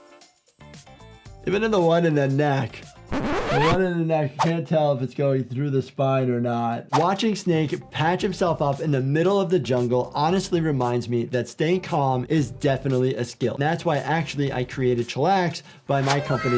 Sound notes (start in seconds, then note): 3.1 tape squeals